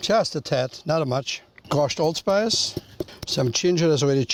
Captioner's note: patting sound